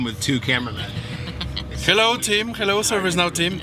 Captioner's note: person laughs